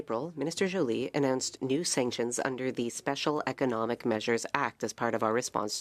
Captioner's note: speaking French